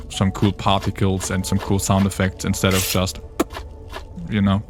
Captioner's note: plop